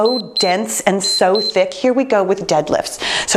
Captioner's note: timer beeps